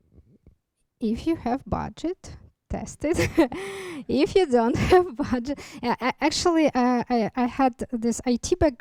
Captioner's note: chuckles